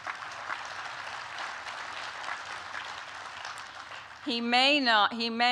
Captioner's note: applause